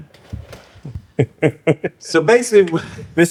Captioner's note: laughter